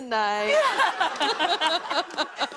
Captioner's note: laughter